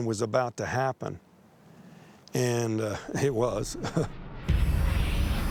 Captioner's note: chuckles